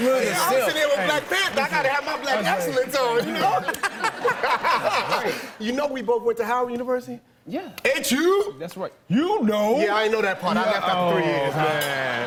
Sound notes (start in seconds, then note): 3.2 laughter